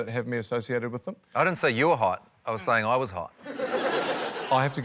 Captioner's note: laughter